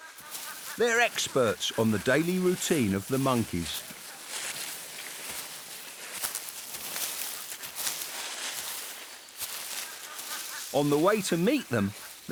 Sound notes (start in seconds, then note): 4.9 leaves crunch